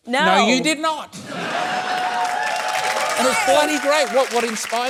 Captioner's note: cheering and applause